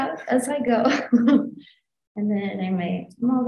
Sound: chuckles

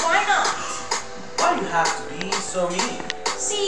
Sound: gasp

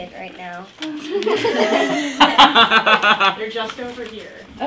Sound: all laughing

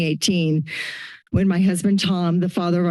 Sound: inhales

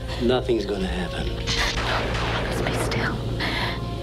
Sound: thunderclap

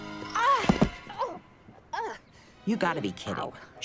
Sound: thuds

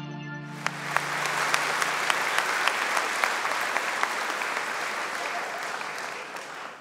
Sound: audience clapping

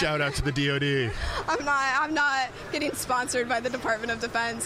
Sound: chuckling

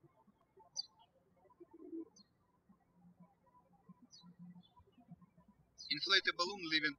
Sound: birds chirping

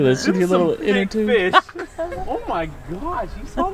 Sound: laughing

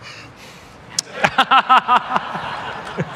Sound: laughter

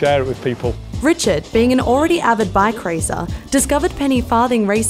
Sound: voiceover

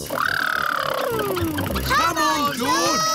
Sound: makes sputtering noises

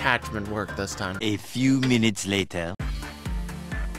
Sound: voiceover; electronic music

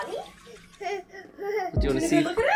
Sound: laughs

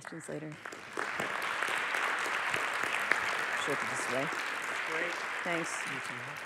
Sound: applause

